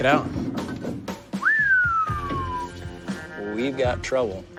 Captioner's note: whistles